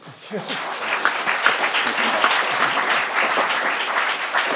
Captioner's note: crowd applauding